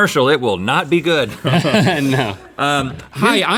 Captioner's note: chuckles